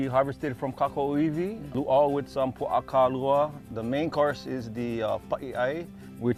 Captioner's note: speaking Hawaiian